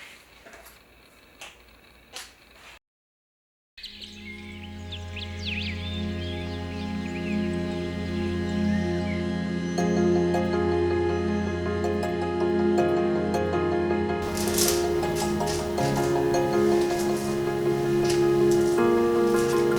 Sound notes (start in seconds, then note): 5.7 gentle electronic music; 6.0 birds chirping